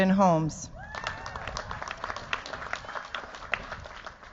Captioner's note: cheers, applause